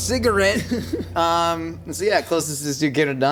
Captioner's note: laughing